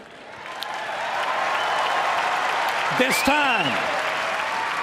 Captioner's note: applause